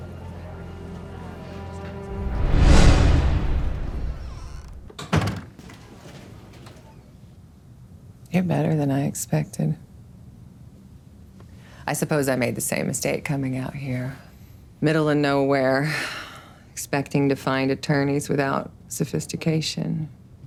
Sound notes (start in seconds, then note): 3.8 door creaks; 5.2 door slams